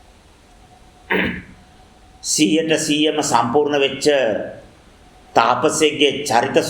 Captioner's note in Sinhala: උගුර කෑරීම